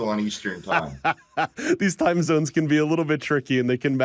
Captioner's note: laughs